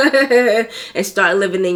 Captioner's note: laughs